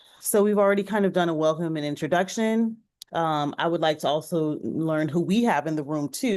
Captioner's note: none